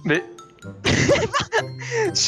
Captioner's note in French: rires